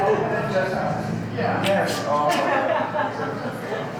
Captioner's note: background chatter